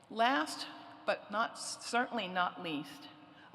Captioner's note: none